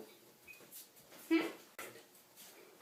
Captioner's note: laughs